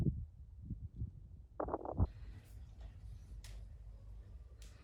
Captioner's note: wind